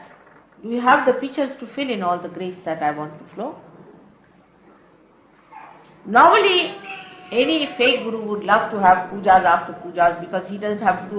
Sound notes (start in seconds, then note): none